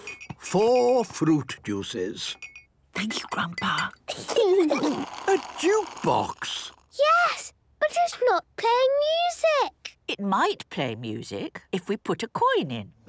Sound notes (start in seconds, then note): 2.6 Granny whispering; 4.1 children giggling